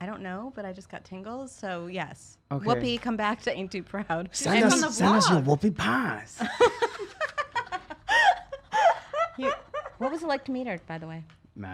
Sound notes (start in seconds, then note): 6.5 laughs